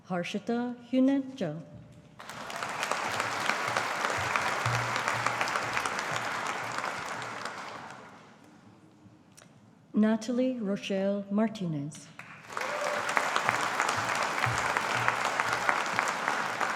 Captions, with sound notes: Harshita Juneja. (AUDIENCE APPLAUDING) Natalie Rochelle Martinez. (AUDIENCE APPLAUDING)